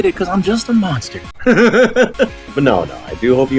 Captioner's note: chuckles